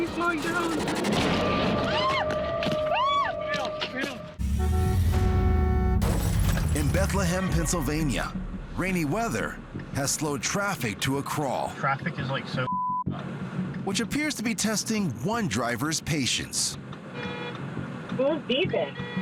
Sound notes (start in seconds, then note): 1.3 screaming; 4.4 horn honks, glass shatters; 17.1 horn honks